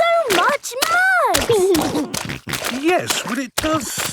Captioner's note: snorting